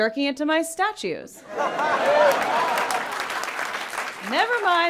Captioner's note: people laughing